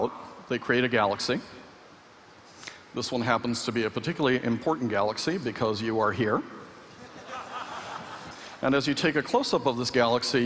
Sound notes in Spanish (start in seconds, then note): 6.9 Risas